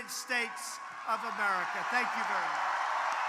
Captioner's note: applause